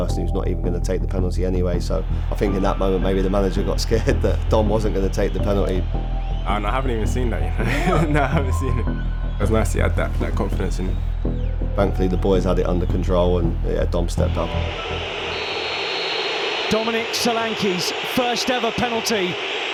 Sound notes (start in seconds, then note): 14.2 crowd whistling; 14.4 referee blows whistle